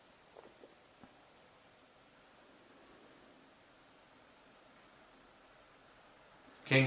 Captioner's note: silence